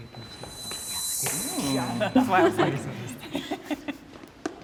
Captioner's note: participants chattering